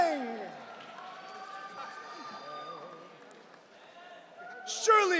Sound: audience cheering

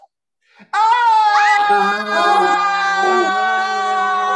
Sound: cast screaming

